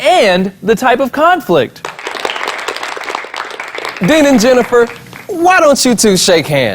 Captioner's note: applause